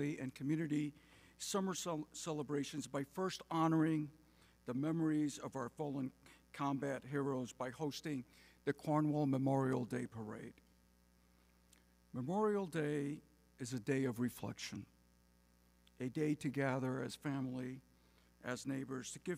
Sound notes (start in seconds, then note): none